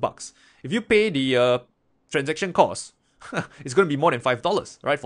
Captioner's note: chuckles